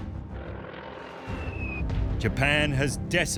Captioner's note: bomb whistling and exploding